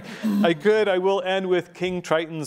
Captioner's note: laughing